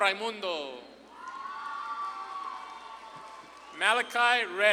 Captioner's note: audience claps and cheers